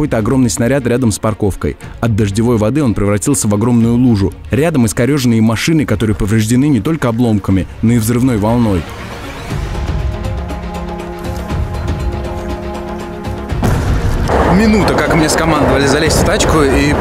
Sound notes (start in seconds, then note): 9.2 troubling music; 13.4 bang